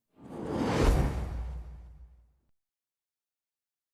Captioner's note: transition sound